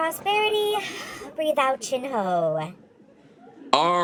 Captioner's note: exhales